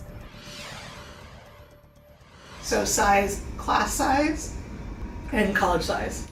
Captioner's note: graphics whoosh